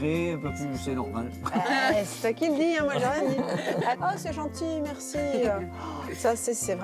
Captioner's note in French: rires